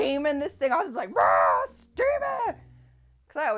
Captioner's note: screams